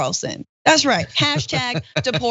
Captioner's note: laugh